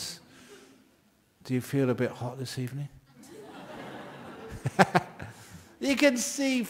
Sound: laughter

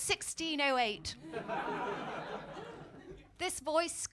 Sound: laughter

